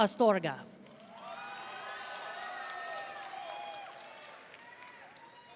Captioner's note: audience cheering